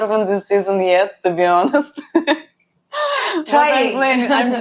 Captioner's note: laughs